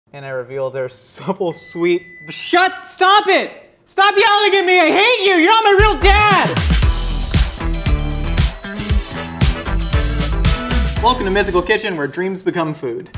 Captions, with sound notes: - And I reveal their supple, sweet, (oven beeps) stop it! Stop yelling at me, I hate you, you're not my real dad! (groovy music) Welcome to Mythical Kitchen, where dreams become food.